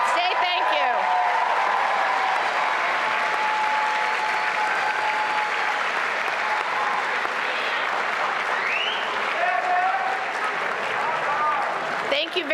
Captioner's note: applause and cheering